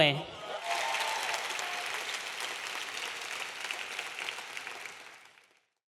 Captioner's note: audience cheering; audience applauding